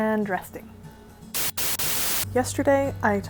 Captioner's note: static